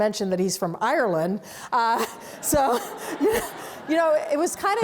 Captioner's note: audience laughs